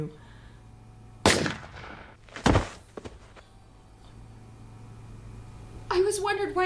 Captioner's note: gun fires; body thuds